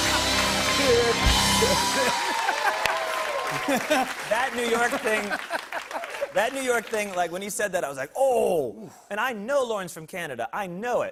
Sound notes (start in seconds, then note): 0.0 laughter and applause